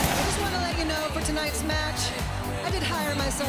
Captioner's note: crowd cheering